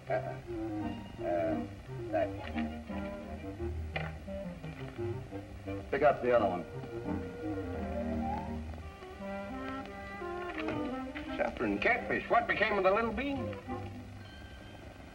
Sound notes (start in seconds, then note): none